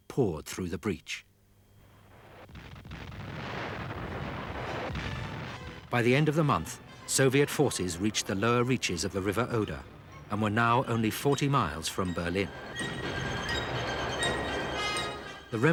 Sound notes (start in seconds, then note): 2.6 explosions booming; 2.6 stirring symphonic music; 12.4 guns firing